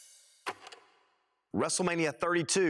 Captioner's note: film reel clicks